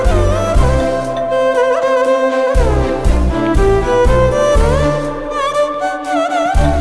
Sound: door bell ringing

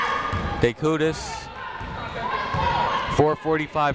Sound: people shouting in the crowd

